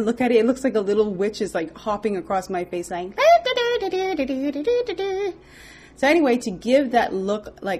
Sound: makes witch sounds

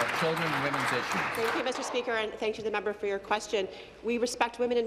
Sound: applause

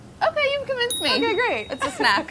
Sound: buzzer pinging

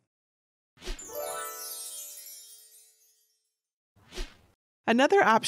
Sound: stars shimmering

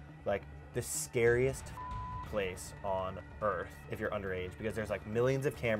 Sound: beep

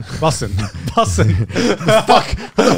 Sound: everyone laughs

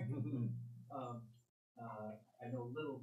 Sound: laughing

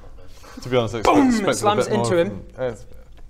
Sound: boom

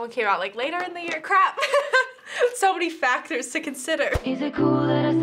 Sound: giggles

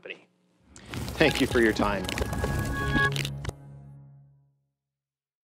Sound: transition sound effect

